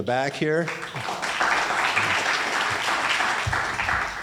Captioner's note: applauding